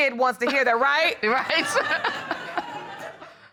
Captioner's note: all laughing